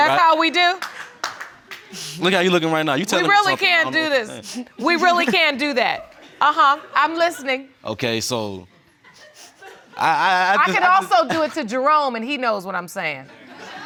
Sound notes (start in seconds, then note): 0.7 scattered clapping; 8.9 stammering; 13.2 laughter